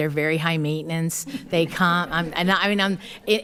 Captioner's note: attendees laughing